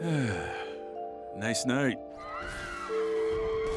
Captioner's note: sighs